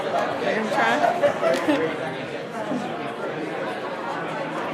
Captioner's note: audience speaking